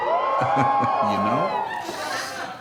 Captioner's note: audience whoops